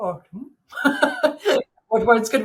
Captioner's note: laughing